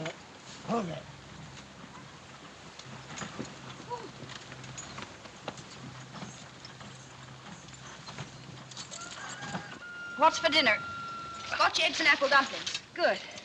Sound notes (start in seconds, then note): 3.6 gasps